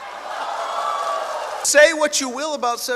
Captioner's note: cheers